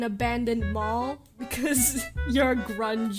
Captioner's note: chuckles